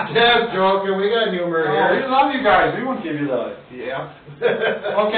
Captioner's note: laughs